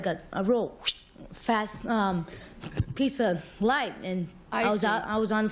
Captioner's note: swish